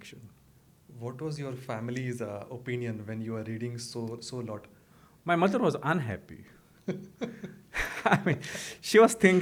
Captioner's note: laughter